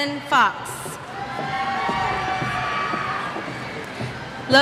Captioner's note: cheers